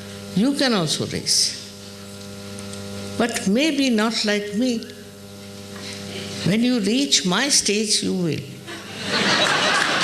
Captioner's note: applause and laughter